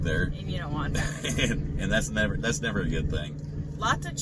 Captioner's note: laughs